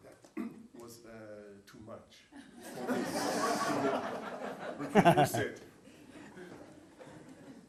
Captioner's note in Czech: smích